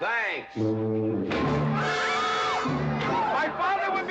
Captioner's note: Katherine screaming